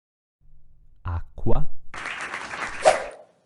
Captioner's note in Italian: Applauso